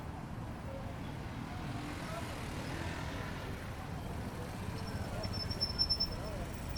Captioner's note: street noise